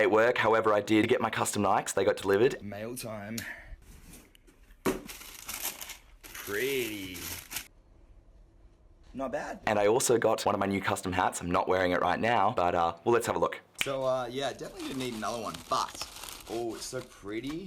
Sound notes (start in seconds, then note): 4.8 soft thud